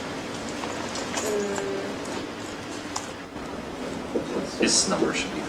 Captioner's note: murmured discussion